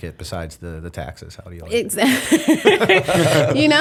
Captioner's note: laughter